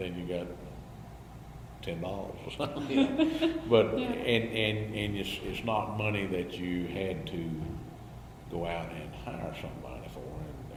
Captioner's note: BOTH laugh